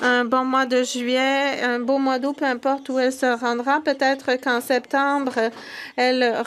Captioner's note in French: voix de l'interprète